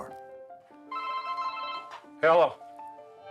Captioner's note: phone ringing